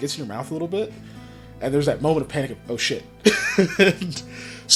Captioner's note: laughs